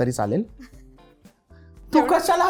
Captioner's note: chuckles